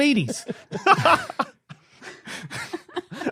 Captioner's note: laughs